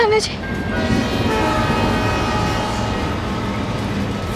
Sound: train horn blaring

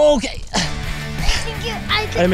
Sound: grunting

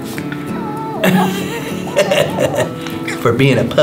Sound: giggles whining; laughs

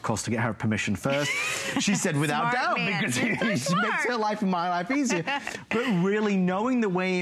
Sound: laughter

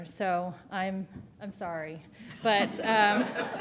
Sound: laughter

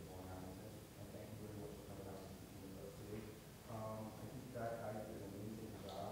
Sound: speaks quietly without mic

